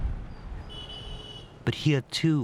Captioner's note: horn honking